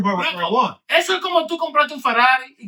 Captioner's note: speaking In Foreign Language